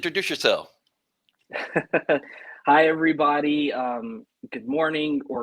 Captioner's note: laughter